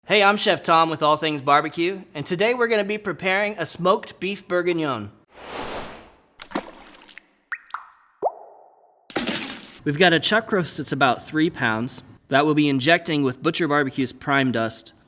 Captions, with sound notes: - Hey, I'm Chef Tom with All Things Barbecue. And today, we're gonna be preparing a smoked beef bourguignon. (whooshing) (splashing) We've got a chuck roast that's about three pounds, that we'll be injecting with Butcher BBQ's Prime Dust,